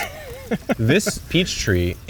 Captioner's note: laughing